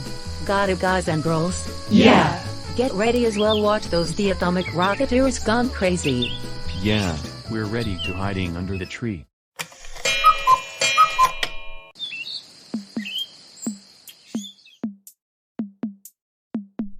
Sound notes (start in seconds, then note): 9.6 clock sound & time card; 12.8 mockingbird Sound